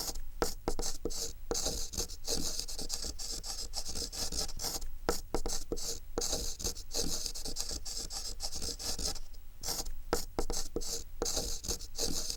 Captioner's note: chalk on Chalkboard